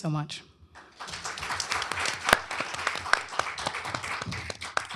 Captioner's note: applause